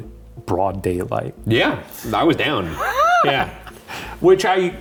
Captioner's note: laughing